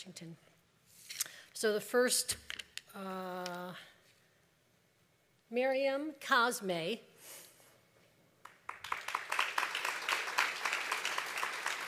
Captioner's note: applause